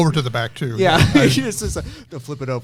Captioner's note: laughs